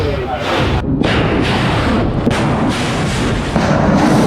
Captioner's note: devices exploding